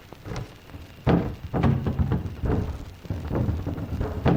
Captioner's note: boards thudding